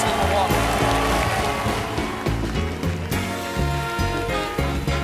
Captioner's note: applause